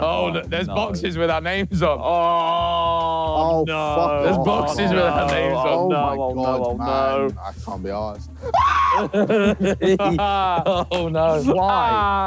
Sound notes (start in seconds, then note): 8.4 group laughing